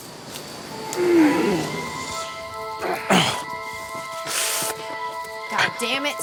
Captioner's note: somber music; group grunting